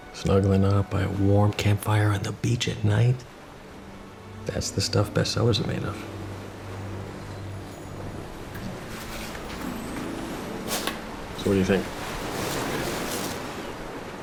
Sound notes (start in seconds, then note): 6.8 ocean waves rolling in